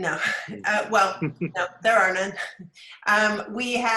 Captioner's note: laughs